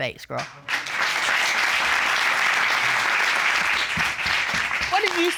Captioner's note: applause